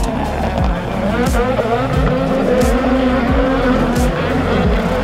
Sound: cars revving

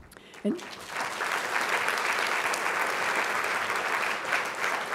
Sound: applause

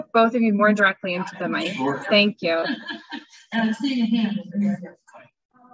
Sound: laughing

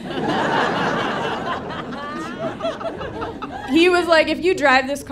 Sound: audience laughing

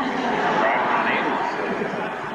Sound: audience laughter

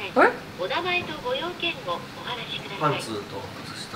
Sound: intercom

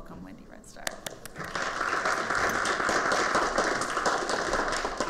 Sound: applause

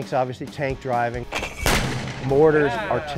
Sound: explosion

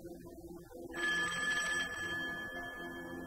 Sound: phone rings

